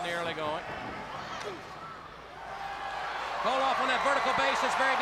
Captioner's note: crowd cheering